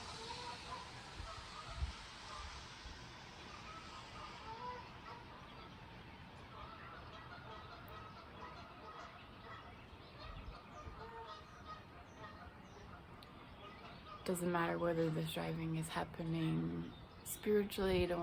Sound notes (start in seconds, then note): 0.0 car driving; 13.6 goose honking